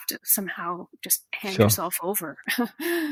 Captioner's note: giggles